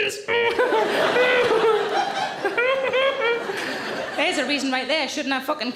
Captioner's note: audience laughing; Sarah grunting